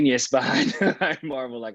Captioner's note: laughs